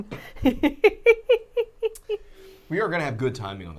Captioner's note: laughing